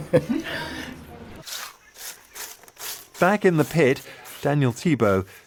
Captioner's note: laughs; shovel scraping